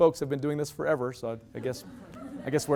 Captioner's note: loud laughter